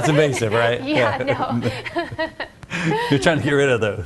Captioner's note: laughs